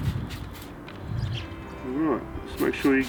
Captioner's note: spraying noise